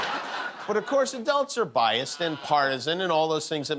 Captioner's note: laughter